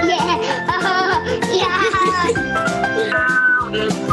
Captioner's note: laughs